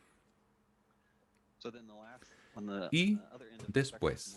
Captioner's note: hablando inglés